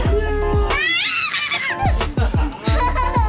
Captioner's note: all laughing